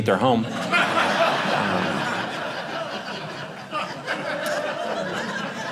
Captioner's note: audience laughing